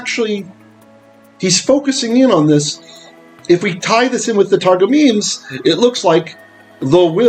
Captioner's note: Hebrew